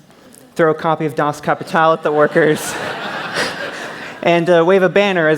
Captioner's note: laughter